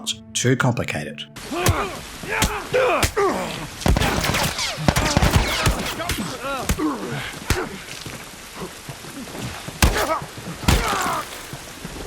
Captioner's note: violent combat sounds